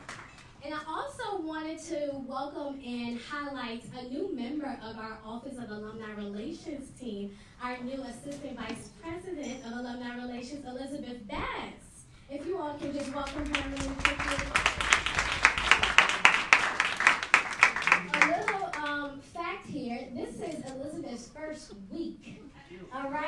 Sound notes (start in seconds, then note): 15.0 applauding